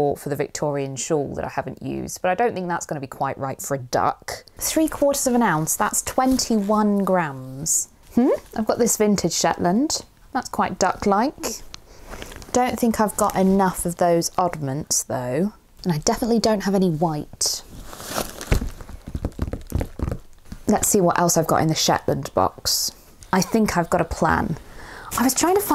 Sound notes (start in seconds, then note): 19.2 drums fingers on the box